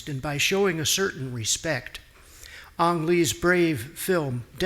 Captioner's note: none